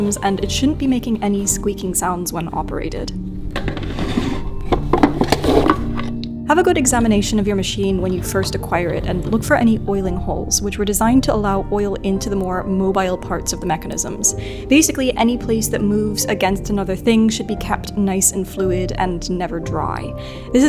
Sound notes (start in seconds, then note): 3.3 drawer scrapes; 5.0 bottle clanks; 9.3 wheel clacks